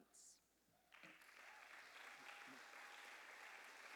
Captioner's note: applause